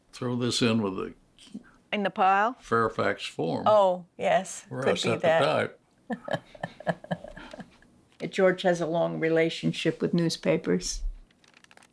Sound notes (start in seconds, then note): 4.9 speaking together; 6.1 both laugh